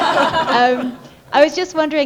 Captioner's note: laughter